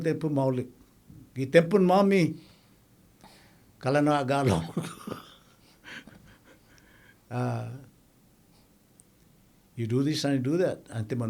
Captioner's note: laughing